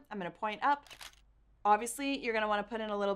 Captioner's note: camera shuttering